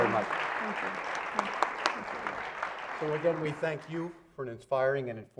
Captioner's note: applause